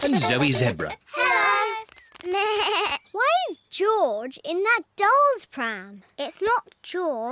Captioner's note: bleats